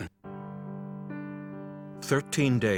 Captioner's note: voiceover